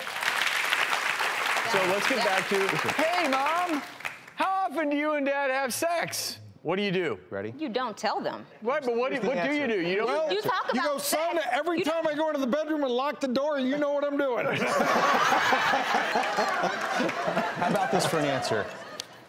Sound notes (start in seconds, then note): 0.0 applause; 14.5 laughs